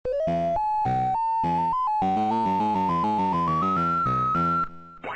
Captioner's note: old school computer game sounds